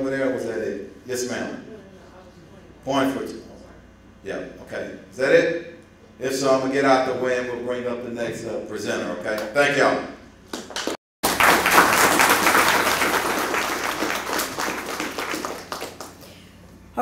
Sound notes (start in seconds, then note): 11.2 applause